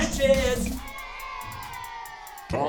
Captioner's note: cheers